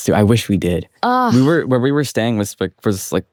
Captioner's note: groans